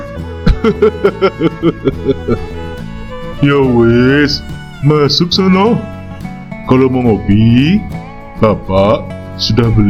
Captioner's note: laughs